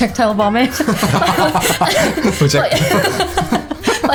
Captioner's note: laughter